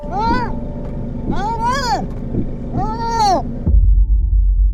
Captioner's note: muffled screaming